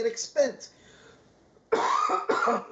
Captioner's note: coughing